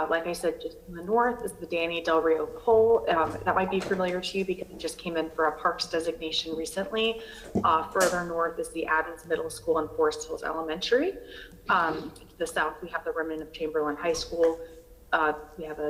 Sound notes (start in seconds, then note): 7.3 ~distortion~